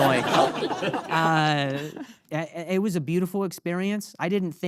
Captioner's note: audience laughing